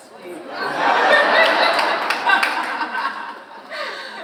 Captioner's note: all laughing